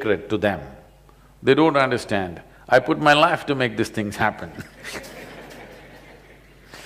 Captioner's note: laughter; 笑聲